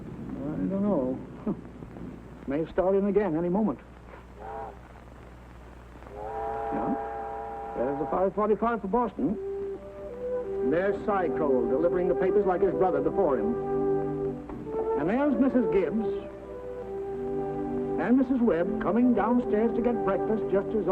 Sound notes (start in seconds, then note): 4.3 train whistle blowing